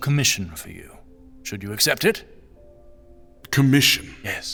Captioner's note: confused